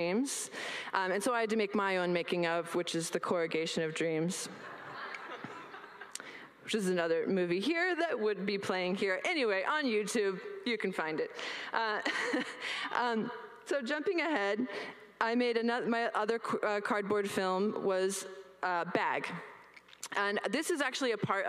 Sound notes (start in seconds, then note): 4.7 laughs